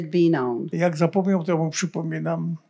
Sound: foreign language

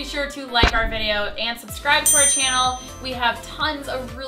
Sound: chiming

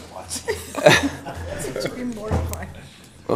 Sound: chuckles; laughter

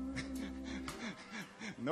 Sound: laughing

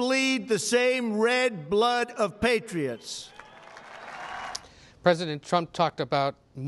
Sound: cheers, applause

